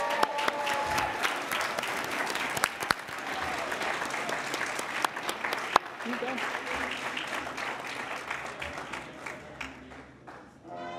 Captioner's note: cheering and Applause